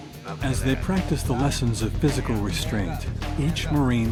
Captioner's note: voiceover